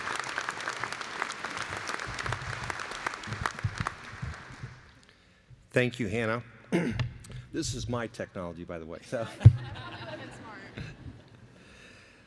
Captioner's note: applause